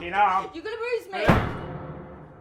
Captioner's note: door slams